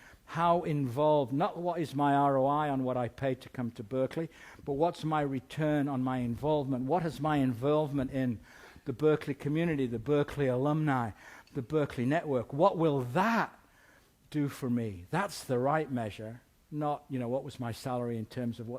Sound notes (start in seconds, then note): none